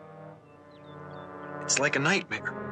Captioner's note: birds chirping